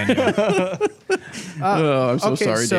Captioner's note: laughs